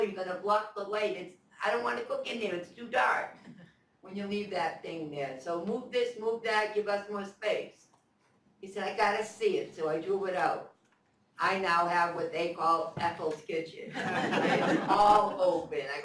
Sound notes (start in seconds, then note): 13.9 laughter